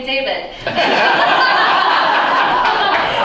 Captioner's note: laughter